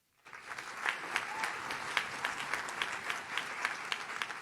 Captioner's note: audience claps